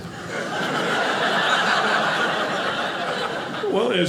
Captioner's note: audience laughing